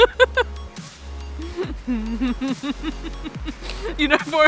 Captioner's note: rolling laughter